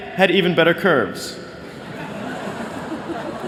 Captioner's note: laughter